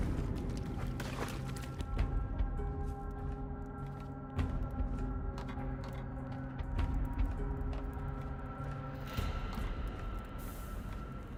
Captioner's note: footsteps